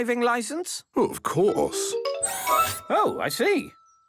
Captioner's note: mechanical arm whirring